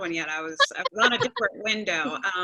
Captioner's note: laughter